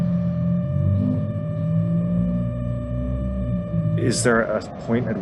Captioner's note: car engine revving